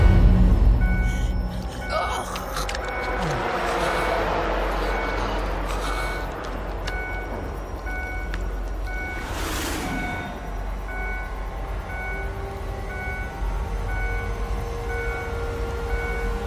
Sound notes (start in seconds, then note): 1.8 woman choking; 8.7 car beeping